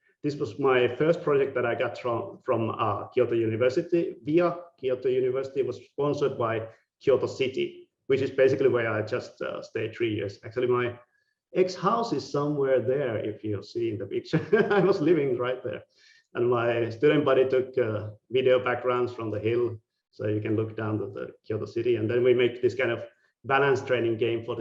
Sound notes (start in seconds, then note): 14.3 laughing